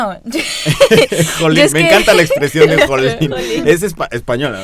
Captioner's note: laughing; starts laughing